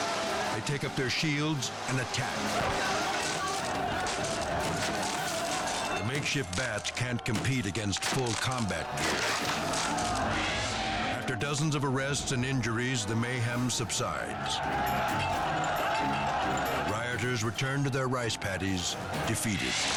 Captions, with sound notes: They take up their shields and attack. (hits thudding) (people shouting) The makeshift bats can't compete against full combat gear. After dozens of arrests and injuries, the mayhem subsides. (people shouting) Rioters return to their rice paddies defeated,